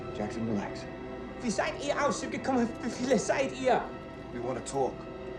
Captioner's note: Fritz speaking in foreign language